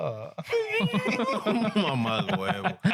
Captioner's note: laughing